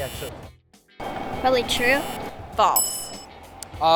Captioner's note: buzzer; ding